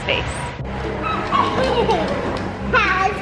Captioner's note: giggles